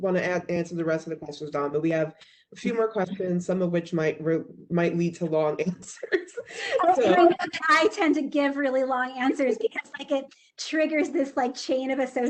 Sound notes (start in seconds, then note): 5.2 chuckles